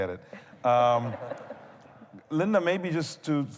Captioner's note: laughter